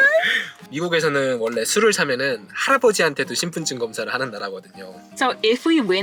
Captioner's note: haha